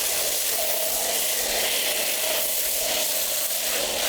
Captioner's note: car wash noise